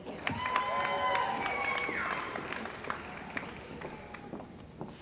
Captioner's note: cheering & Applause